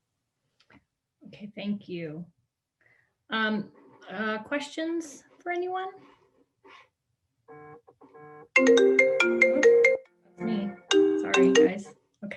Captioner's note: phone rings